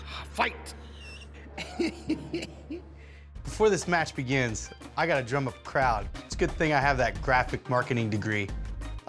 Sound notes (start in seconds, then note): 0.9 laughs